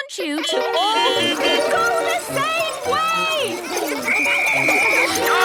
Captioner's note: beeping; whistle blowing